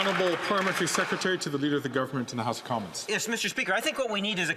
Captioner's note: some Applause